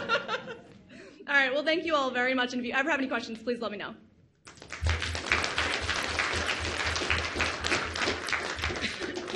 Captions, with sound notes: (audience laughs) All right, well thank you all very much, and if you ever have any questions, please let me know. (audience applauds)